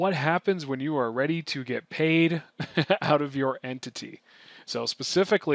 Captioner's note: chuckles